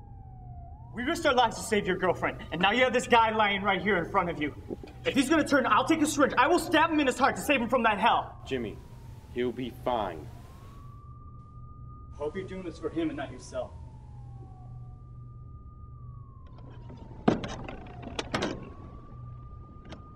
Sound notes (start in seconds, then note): 15.3 sirens wailing; 17.3 steps clatter